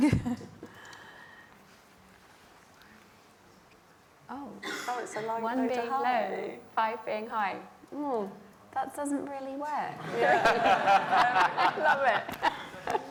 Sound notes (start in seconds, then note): 2.3 laughter